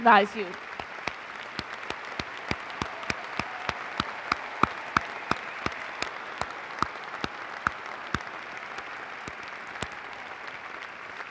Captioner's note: applause